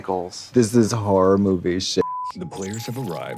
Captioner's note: beep